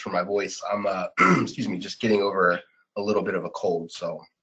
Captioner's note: clears throat